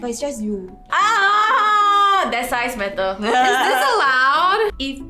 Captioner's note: scRREEEMS